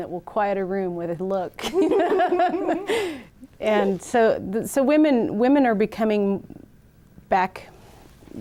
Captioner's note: all laugh